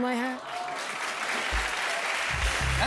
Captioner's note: applause